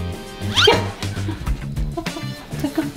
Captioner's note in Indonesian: tertawa